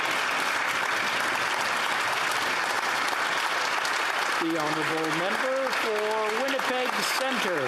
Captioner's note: applause